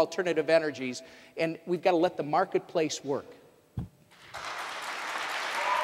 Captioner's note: applause, cheers